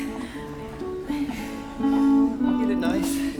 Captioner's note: chuckles